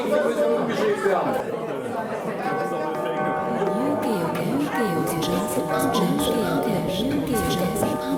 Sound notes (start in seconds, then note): 3.9 repeated notifications